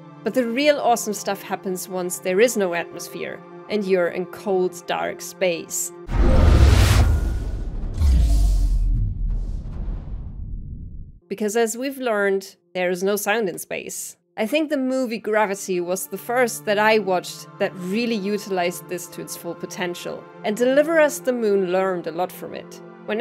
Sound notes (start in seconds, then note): 6.1 air being sucked out, silence